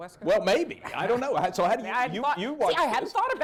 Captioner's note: laughter